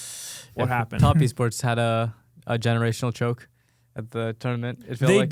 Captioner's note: laughs